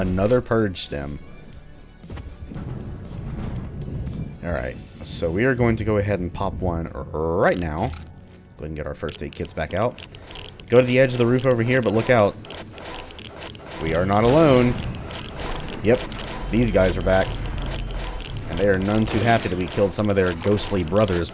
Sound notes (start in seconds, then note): 12.7 distant Haunts wailing; 17.1 Shadow Balls humming